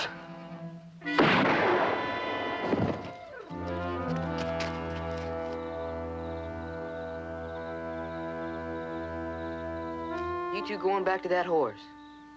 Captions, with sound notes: - [gunfire] - [thud] You two go on back to that horse.